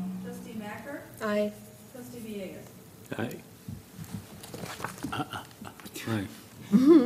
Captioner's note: laugh